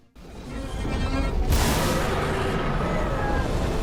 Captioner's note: dragon growling